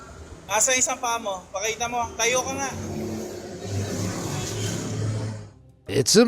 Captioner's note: passerby speaks in foreign language